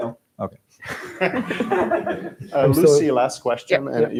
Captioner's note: laughter